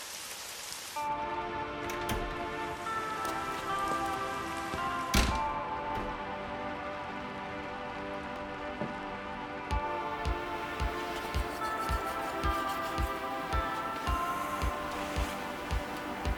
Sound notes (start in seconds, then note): 1.1 relaxing music; 1.8 rain hitting roof